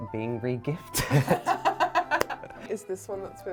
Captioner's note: laughs